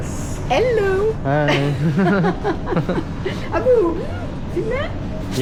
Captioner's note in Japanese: 笑い